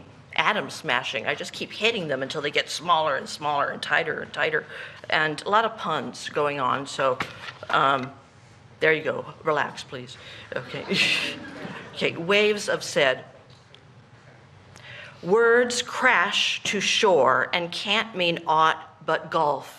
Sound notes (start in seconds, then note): 14.9 laughter